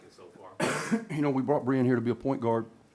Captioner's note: cough